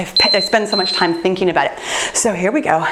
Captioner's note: timer beeps